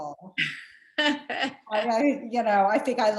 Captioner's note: laughs